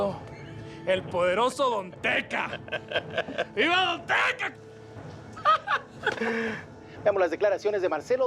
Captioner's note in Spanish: risas